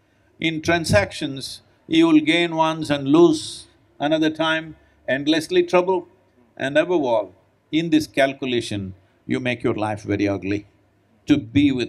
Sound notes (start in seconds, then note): none